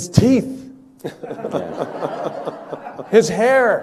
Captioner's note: people laughing